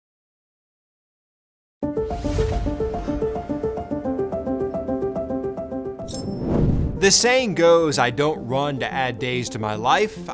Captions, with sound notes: (dramatic music) (logo whooshes) The saying goes, "I don't run to add days to my life.